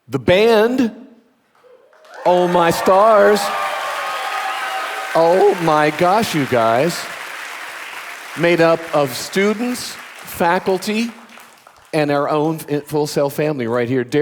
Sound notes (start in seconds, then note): 3.9 audience applauding; 3.9 audience cheering